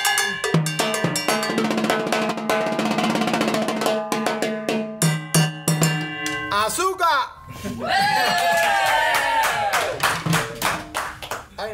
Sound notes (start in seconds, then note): 7.0 shouts in foreign language; 8.2 audience applauds